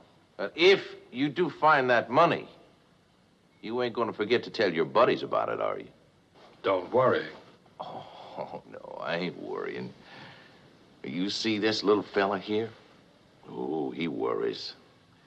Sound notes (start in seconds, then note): 8.3 chuckling